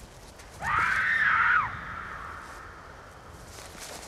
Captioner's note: scream